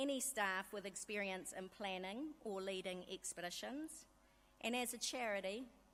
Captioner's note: none